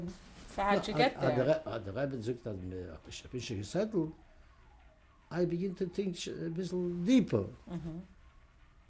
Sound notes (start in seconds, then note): 2.5 non-english